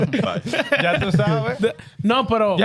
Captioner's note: laughing